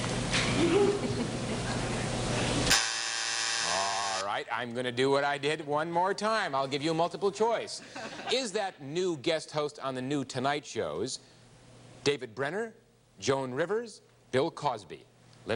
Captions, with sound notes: -(buzzer sounds) -All right. I'm gonna do what I did one more time. I'll give you multiple choice. Is that new guest host on the new "Tonight" shows David Brenner, Joan Rivers, Bill Cosby?